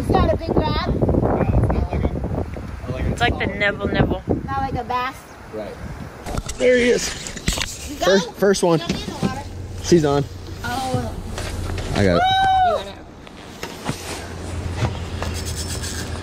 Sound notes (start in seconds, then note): 12.1 cheers